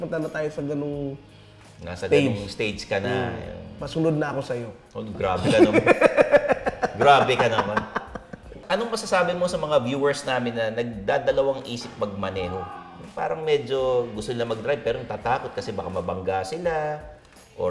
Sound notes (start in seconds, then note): 5.3 laughs